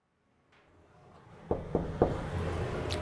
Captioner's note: knocks on the door